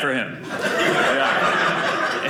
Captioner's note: audience laughing